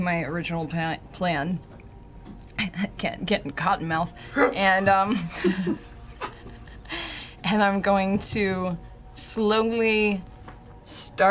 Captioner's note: laughs